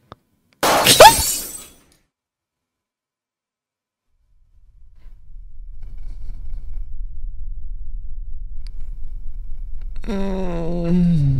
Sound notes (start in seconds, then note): 0.7 scream